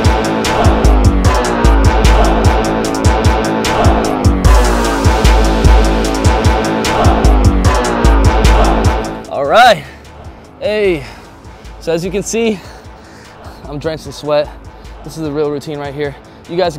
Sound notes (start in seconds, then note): 12.4 heavy breathing